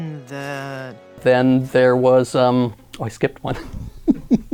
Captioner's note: chuckling